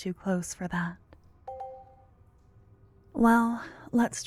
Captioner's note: positive sounding chime in the distance